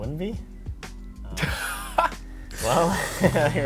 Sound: laughs

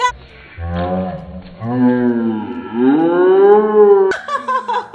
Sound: slow motion sounds; laughs

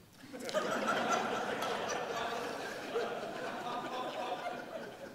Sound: audience laughing

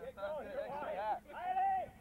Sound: shouting

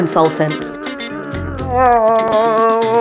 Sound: growling

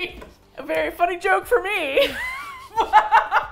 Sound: laughing

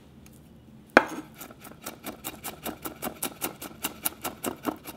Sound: chopping

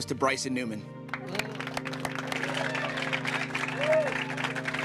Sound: applause

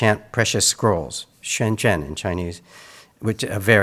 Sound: speaks in Mandarin

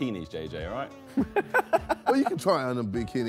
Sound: JJ laughing

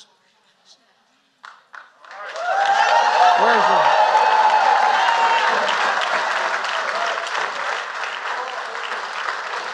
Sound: applause

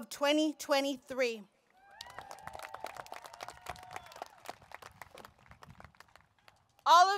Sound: applause, Cheering

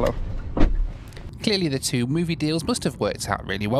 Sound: voiceover

